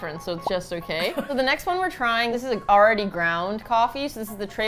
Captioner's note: laughs